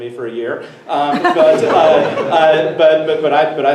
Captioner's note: everyone laughs